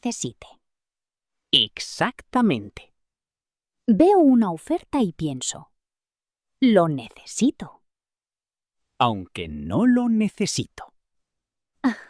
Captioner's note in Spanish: risas